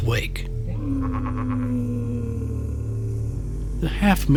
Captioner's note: muffled roaring